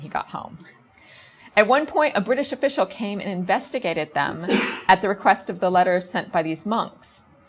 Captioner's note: audience member coughs